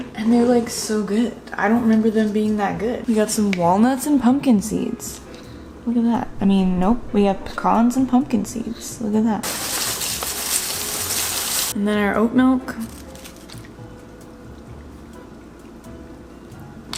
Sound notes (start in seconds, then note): 9.4 pouring cereal